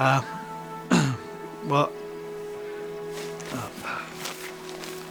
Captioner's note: stammering; paper rustling